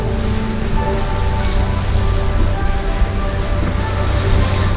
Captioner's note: water splashing